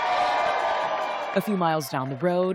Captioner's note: cheering